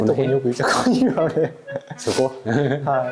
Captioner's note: laughs